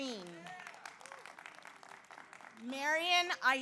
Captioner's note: audience applauds; audience cheers